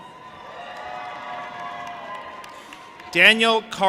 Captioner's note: audience applauding and cheering